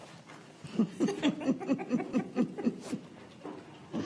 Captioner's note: laughing